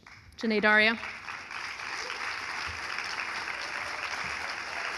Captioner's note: audience applauding